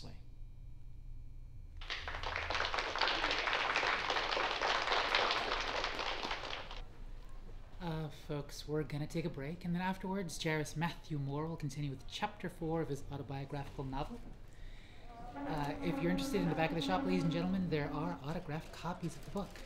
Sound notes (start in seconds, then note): 1.8 applause